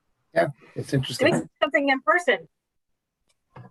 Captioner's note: static audio